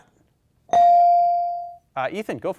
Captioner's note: bell dings